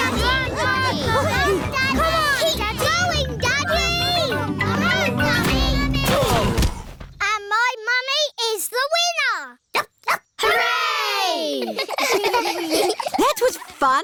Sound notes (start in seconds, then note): 6.6 groaning; 10.3 barks; 11.5 giggling